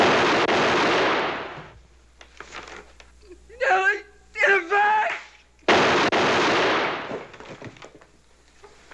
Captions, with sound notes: [gunshots] Elly! In the back.. [gunshots]